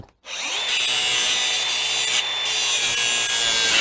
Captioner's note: grinder grinding